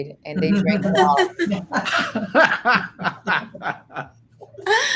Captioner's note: laughs